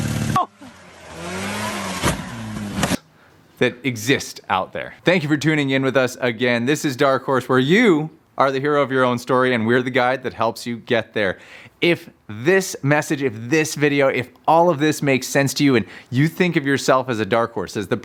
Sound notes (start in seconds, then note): 2.1 machine thumps